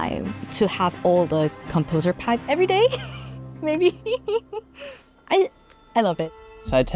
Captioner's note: laughs